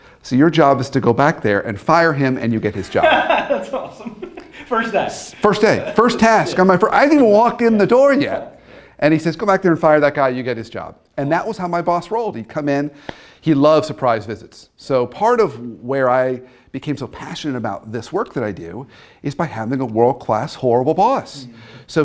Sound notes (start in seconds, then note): 2.8 laughs